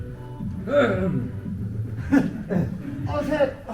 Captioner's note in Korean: 에헴